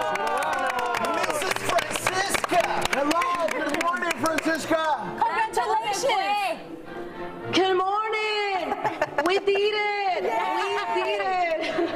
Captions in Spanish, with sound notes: ESPECIAL. >> TENEMOS QUE FELICITAR A CIUDADANA DE LOS ESTADOS UNIDOS. [APLAUSOS]